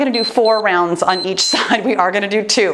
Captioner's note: timer beeps